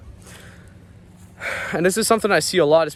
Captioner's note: breathes heavily